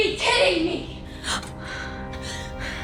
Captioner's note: gasp